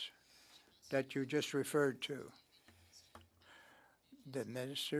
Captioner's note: speaking French